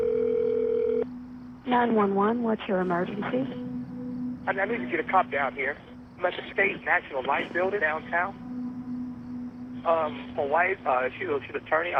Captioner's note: phone rings